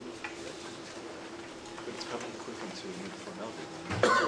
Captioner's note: indistinct conversation